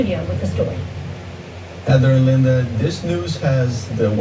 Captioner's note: on TV